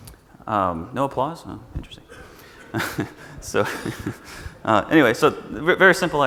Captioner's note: chuckles